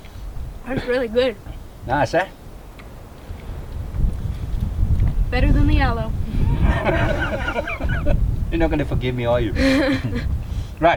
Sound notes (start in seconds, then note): 6.4 laughs; 9.6 laughs